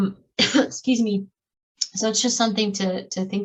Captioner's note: coughs